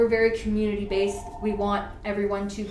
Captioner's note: phone Rings